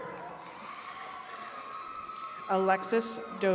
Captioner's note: attendees cheering